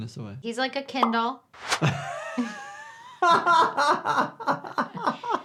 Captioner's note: doctor laughs